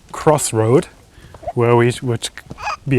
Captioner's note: hiccup